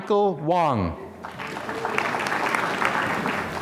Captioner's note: applause